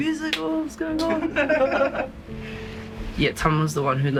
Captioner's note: laughs